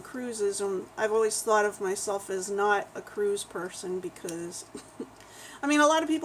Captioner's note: laughs